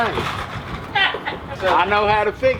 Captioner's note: laughter